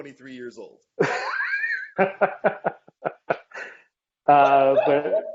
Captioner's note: laughing